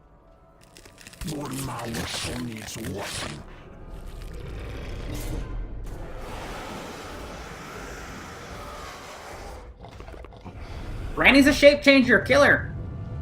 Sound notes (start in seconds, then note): 0.5 bone cracking sound; 1.2 voice deeper; 4.1 growling; 5.6 roar